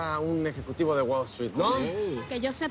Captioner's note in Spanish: Exclamaciones